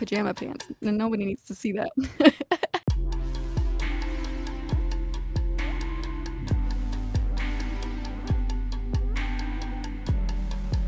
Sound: laughter

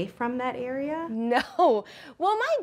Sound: laughs

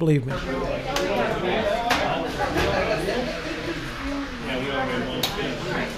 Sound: crowd talking and laughing

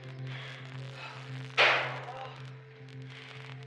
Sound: banging

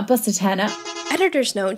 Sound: bus horn honking

